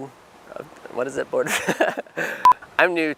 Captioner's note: laughing